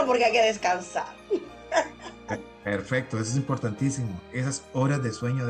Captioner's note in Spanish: risas